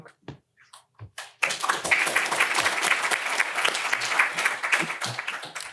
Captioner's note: applause